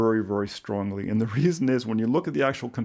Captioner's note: chuckles